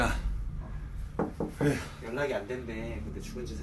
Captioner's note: knocking the wall